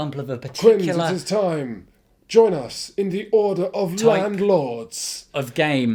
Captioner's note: breathy